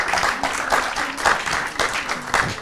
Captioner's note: applause